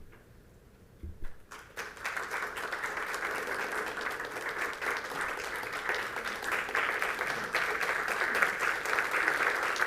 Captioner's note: applause